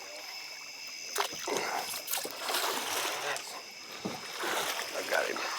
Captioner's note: water splashing